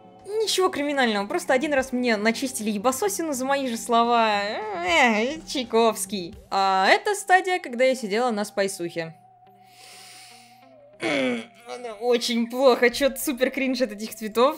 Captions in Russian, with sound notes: Ничего криминального , просто 1 раз мне начистили ебасосину за мои же слова *смешные звуки* эт Чайковский А это стадия , когда я сидела на спайсухе *глубокий вдох* божественные звуки, которые не описать словами смертных очень плохо , чо то супер кринч от этих цветов